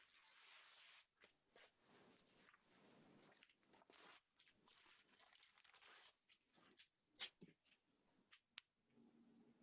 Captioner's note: sound of ripping paper